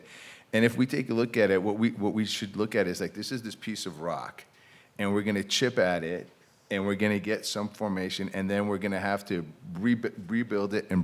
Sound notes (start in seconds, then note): none